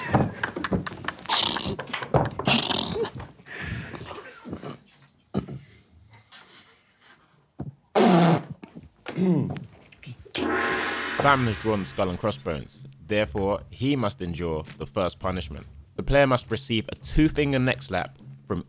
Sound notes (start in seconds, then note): 0.0 cards smack table; 0.9 group quietly snort-laughing; 7.9 raspberries; 10.4 gong banging